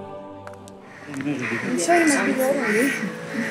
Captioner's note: People indistinctly chattering